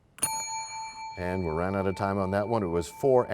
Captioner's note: bell rings, time expires